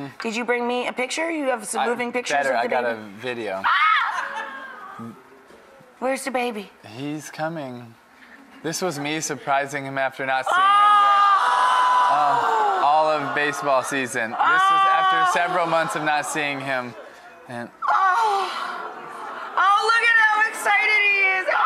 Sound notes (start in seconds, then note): 3.6 screams; 4.1 audience laughs; 10.5 crowd oooohs